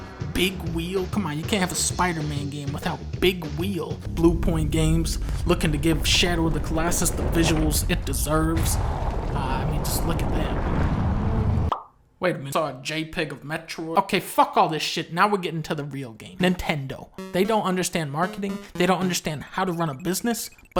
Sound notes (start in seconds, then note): 11.6 pop